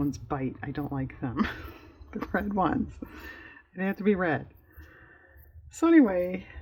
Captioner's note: laughs